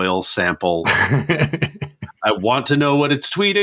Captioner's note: laughs